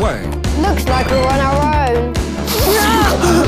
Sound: sniff

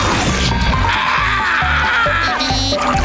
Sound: screaming

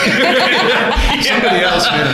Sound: laughter

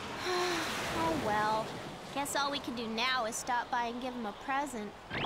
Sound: sighs

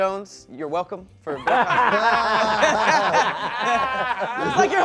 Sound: laughing

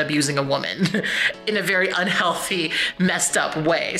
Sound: chuckles

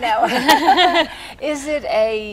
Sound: laughing

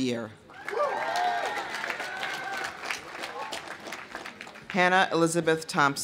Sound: audience cheering; audience applauding

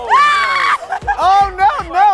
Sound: screams

